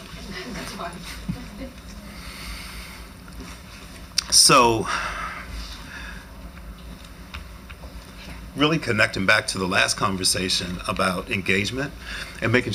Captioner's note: laughter